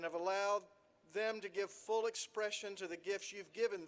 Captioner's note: none